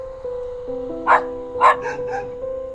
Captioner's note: doggo barking